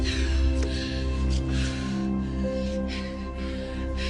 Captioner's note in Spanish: Janney jadea